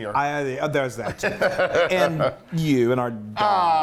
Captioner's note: laugh